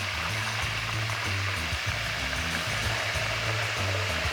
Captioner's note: oil sizzles